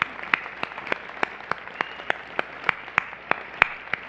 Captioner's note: applause